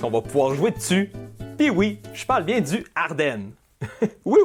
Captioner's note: sarcastic